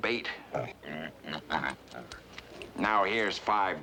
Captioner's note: grunting